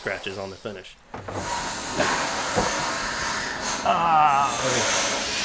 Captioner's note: tools grinding